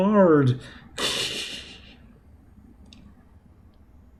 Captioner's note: whining; laughs softly